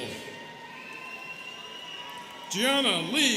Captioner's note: students cheering